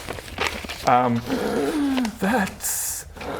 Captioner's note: breathes